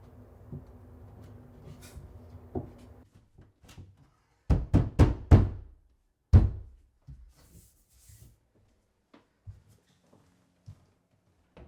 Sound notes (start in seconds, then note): 4.3 hammer pounding